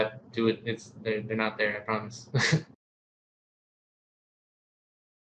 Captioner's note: chuckles